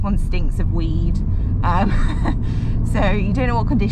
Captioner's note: laughs